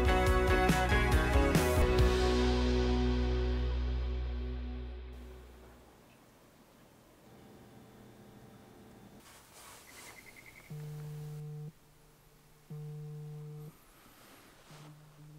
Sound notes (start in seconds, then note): 12.6 alarm vibrates